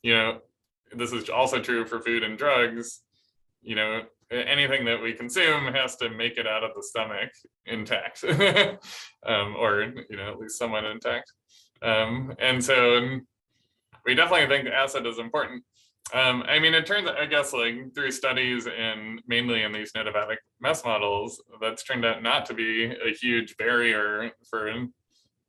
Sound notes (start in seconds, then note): 8.2 laughter